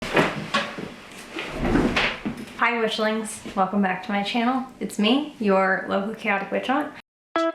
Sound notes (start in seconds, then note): 2.1 chair slides across floor